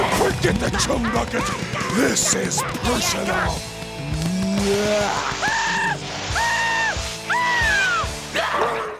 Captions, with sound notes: Forget the Chum Bucket! This is personal. [screaming]